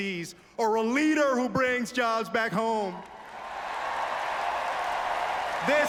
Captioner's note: applause